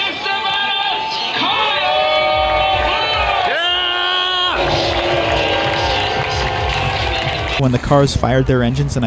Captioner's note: cheers and boos